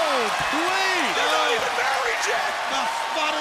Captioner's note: crowd cheering